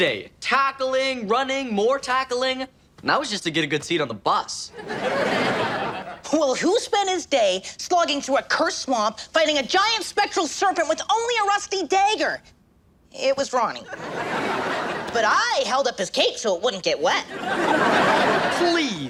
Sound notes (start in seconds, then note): 4.7 audience laughs; 13.8 audience laughs; 17.2 audience laughs